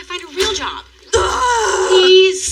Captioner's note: frurustrated groaoan